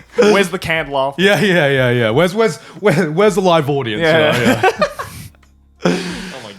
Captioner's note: laughs